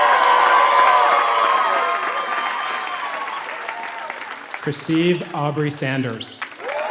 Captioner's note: applause